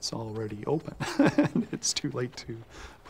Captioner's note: laughs